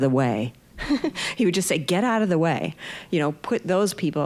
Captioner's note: laughing